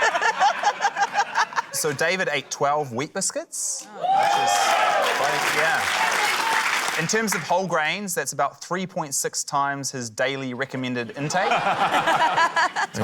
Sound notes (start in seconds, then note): 3.9 cheering, applause